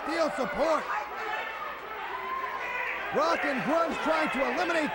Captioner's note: crowd chatter